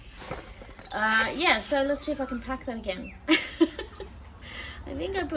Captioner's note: laughs